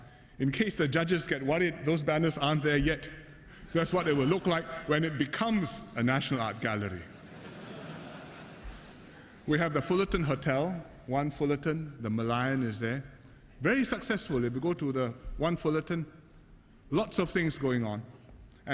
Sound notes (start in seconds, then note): 6.6 laughter